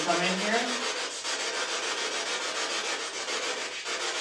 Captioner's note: scratching